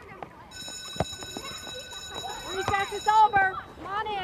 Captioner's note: group chattering; bell rings